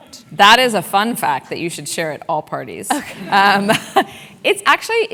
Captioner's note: laugh